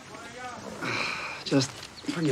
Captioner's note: sigh